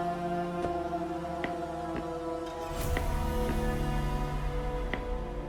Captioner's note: footsteps thudding